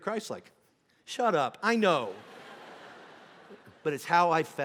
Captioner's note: congregation laughing